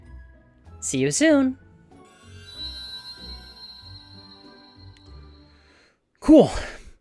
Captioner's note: magical chime